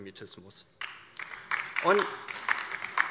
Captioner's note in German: Beifall bei der LINKEN